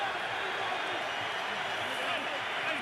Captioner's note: crowd cheering